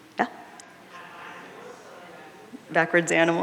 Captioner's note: audience murmuring